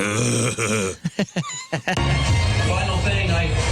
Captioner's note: growling; laughter